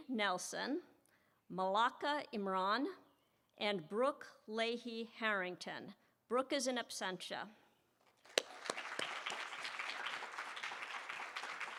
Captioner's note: applause